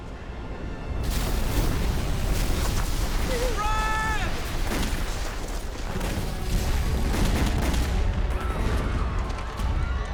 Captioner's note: explosions and gunfire